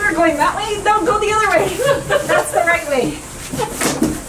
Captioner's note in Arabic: يضحك